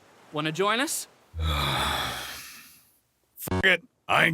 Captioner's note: sigh